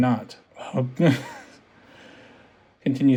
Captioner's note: nervous laughter